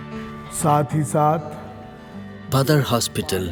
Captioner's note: speaking in foreign language